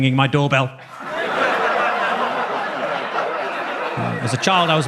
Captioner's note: audience laughs